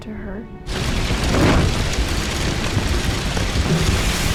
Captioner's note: fire crackling